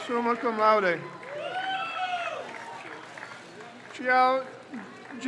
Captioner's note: crowd cheers